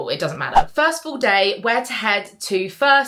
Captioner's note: screen fwipping